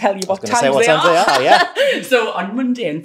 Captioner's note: laughs